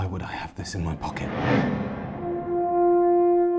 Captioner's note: memory image whooshes; tense music